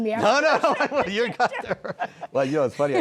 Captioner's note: laughter